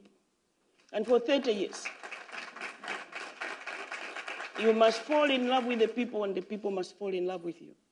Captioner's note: applause